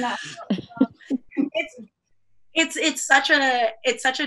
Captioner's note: laughter